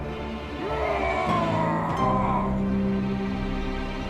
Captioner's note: roars